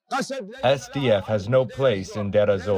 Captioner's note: through translator